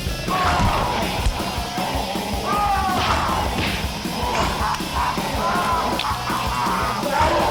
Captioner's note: upbeat music; kicks thudding